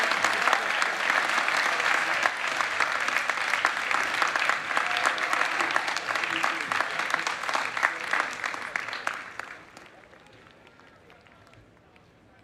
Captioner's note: applause